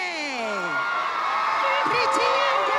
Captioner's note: cheering